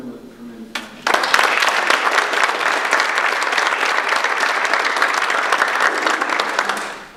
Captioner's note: audience applause